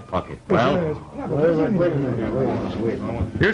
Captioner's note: murmuring